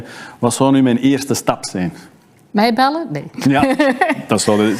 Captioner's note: laughs